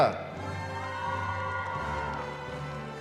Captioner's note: cheering